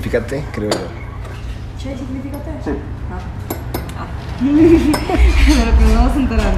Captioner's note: laugh